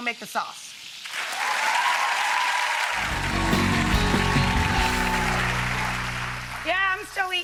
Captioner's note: audience applauds; upbeat music